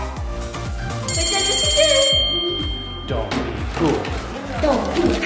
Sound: bell ringing

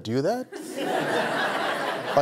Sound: laughter

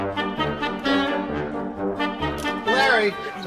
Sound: camera shutter clicks

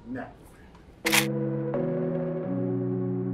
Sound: Legos click together; light music

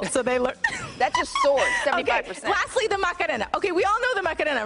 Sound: laughter

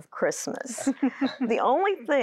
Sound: giggling

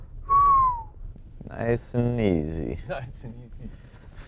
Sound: whistles

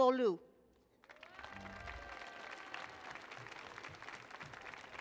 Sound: audience applauding

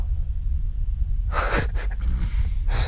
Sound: laughing

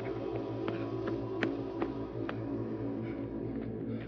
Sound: gasping

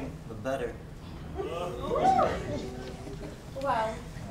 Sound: audience laughs

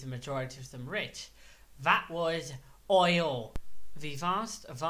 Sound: mic pops totally by accident

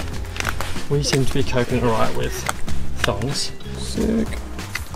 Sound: flip flops

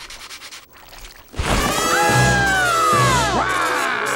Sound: screaming; laughing

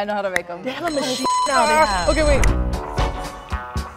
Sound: bell rings; upbeat music

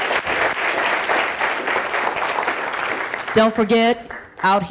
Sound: audience applauding

